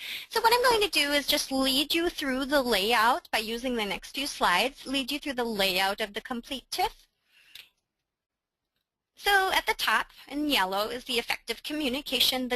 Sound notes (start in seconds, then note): none